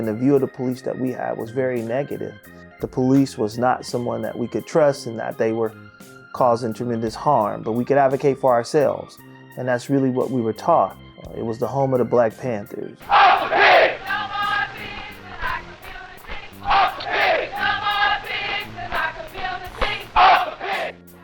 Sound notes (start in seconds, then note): 13.0 crowd